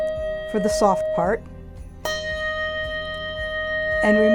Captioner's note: handbell dinging